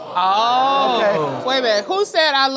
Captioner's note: crowd gasping